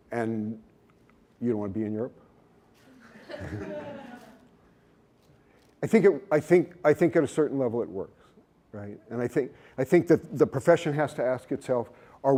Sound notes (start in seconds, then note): 2.9 laughter